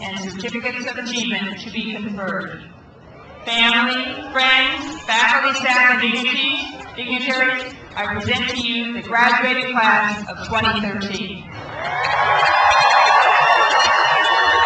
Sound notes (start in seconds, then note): 11.5 crowd cheers